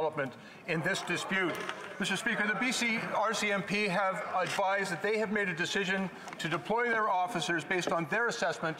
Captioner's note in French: voix de l'interprète